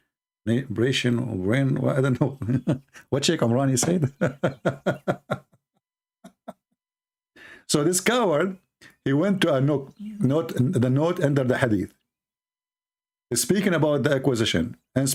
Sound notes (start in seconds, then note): 3.8 Ketawa